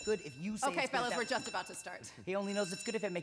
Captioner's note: bell rings